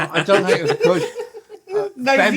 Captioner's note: laughter